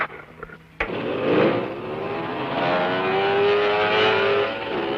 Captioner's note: motorcycles revving